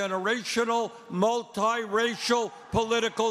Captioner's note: cheering and applause